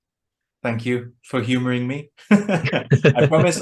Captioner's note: they laugh